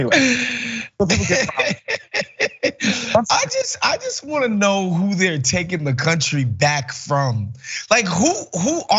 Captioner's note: laugh